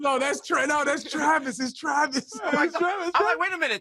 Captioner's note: laughter